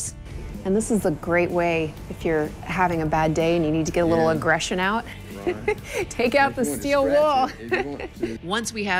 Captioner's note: laughs